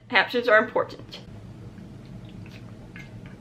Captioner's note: swallowing water